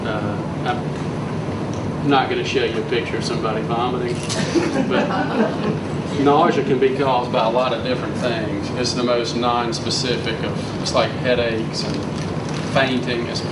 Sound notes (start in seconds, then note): 4.3 audience laughs